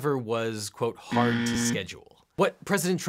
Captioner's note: buzzer buzzes